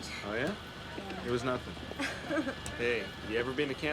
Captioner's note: laughs